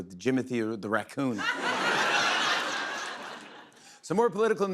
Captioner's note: laughter